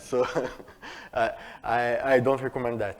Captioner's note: laughter